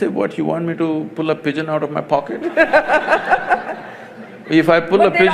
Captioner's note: laughter